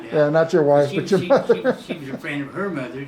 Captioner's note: chuckles